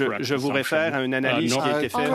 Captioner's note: speaking French